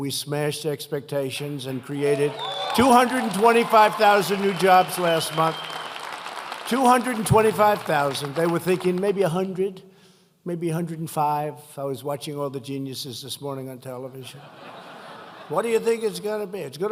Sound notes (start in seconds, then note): 5.6 applause; 14.3 laughter